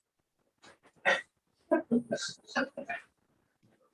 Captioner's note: audience laughs